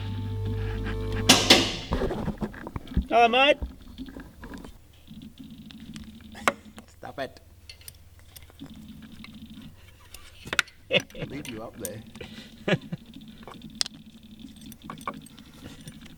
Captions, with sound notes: (car lifter clicks) Hello mate! -(laughs) -Stop it! -(laughs) -I'll leave you up there. (laughs)